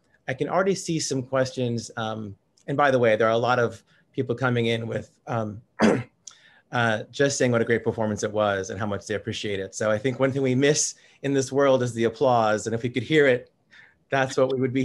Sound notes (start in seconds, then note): 5.8 clears throat